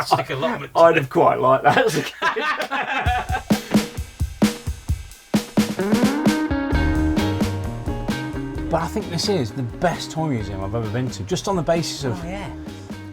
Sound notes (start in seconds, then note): 0.0 laughs; 1.6 all laugh